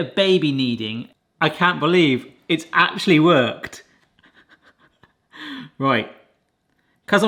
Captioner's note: laughs